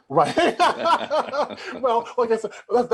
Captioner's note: both laughing heartily